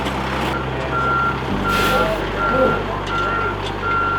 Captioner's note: truck beeping